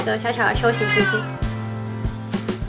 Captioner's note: meow